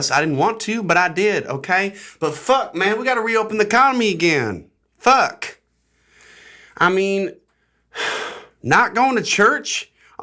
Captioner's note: sigh